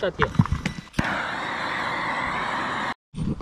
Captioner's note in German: brennerrauschen